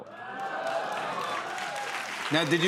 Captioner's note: cheers and applause